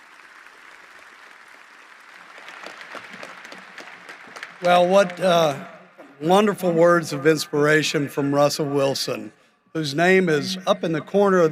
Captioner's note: applause